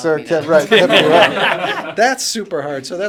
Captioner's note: laughter